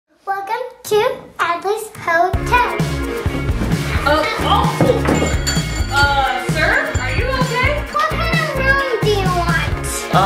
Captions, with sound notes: - Welcome to Adley's hotel. (upbeat music) (gate latch clangs) - Sir? Are you okay? - What kind of room do you want?